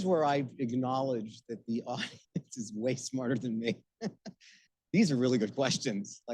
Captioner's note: laughing